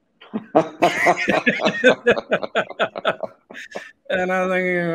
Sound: both laughing

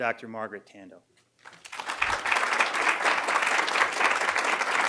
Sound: applause

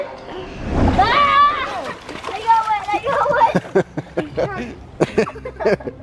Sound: kids scream and splash; laughs

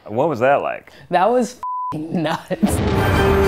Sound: beep

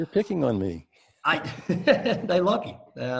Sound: laughs

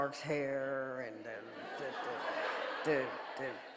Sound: audience laughing

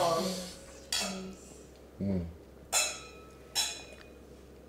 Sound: glasses clinking

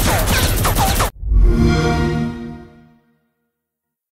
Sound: xbox sound

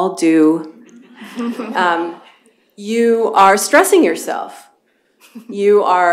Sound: laughter

